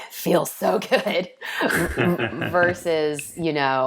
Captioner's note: laughing